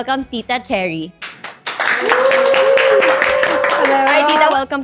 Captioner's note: applauds